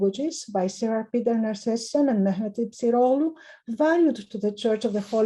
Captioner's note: speaking in foreign language